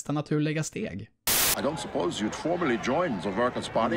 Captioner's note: white noise